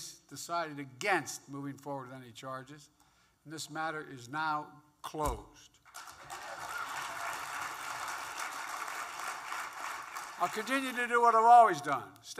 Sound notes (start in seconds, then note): 5.8 applause